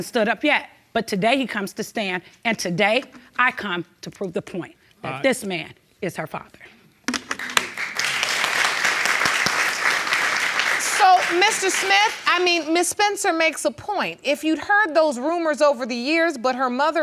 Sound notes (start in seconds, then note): 7.1 audience clapping